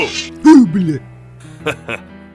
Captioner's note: scared